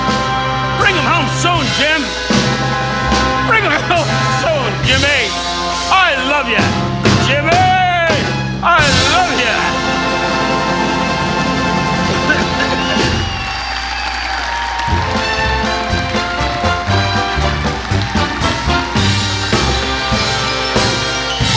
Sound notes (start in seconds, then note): 9.0 coughing; 12.2 audience applauding